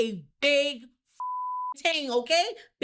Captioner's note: beep